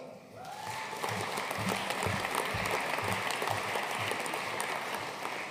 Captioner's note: audience cheering and applauding